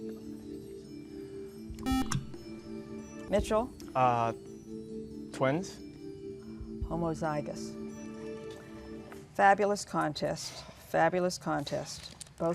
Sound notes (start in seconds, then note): 1.8 buzzer